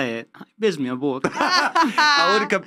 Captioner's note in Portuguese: risos